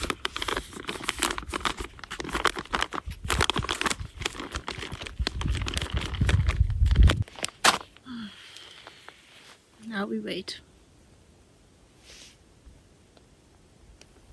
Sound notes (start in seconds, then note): 0.0 sound of closing the bag and shaking it; 8.0 sigh